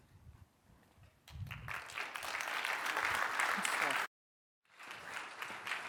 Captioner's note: applause